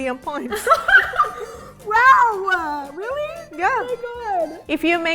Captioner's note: laughing